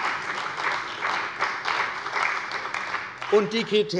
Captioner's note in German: Beifall bei der CDU und dem BÜNDNIS 90/DIE GRÜNEN